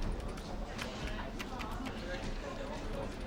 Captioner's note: chattering